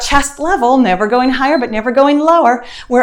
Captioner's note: timer beeps